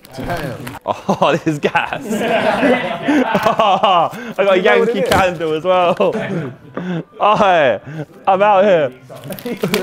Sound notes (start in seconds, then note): 0.8 Sidemen laughing; 1.0 laughs